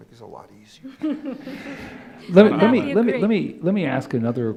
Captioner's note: laughter